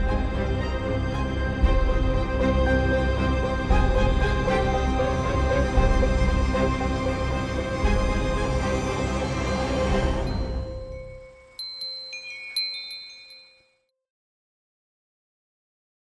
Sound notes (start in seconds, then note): 10.3 chimes ringing